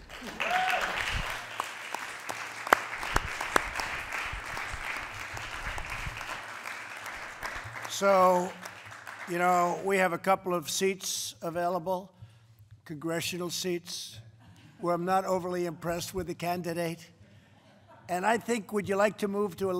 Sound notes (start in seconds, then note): 7.2 applause; 14.3 laughter; 17.4 laughter